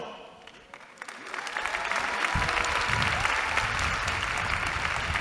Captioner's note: applause